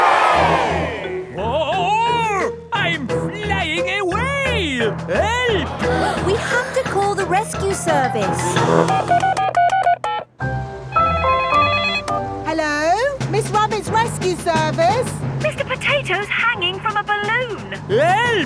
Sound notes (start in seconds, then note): 0.0 crowd cheers; 8.4 beeping; 11.2 phone ringing